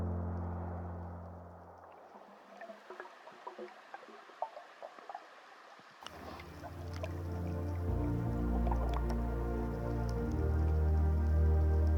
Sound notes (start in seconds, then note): 2.3 water bubbling; 6.0 relaxing music